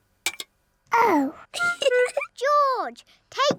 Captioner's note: giggles